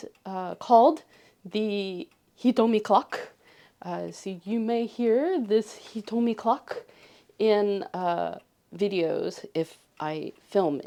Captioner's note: cuckoo clock noise